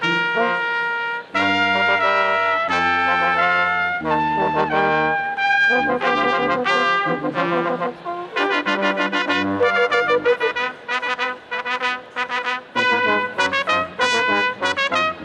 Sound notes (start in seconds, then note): none